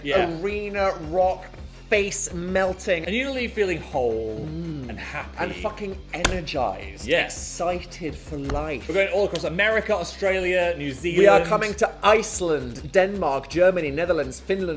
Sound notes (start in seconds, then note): 6.2 palm thumping